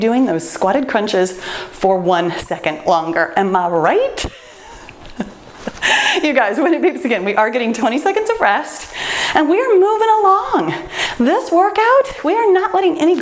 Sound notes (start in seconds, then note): 4.2 laughs